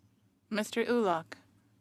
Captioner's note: speaking French